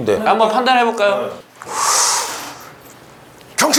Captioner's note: inhales